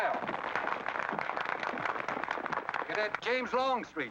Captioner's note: applause